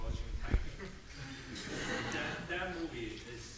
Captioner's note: audience laughing